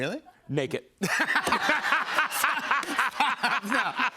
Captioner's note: laughter